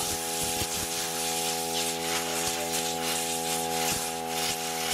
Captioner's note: humming